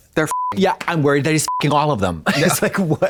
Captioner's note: beep